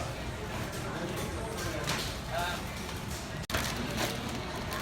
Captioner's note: customer chatter